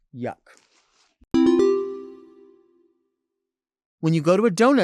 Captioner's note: bell chiming